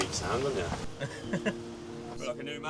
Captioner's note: laughs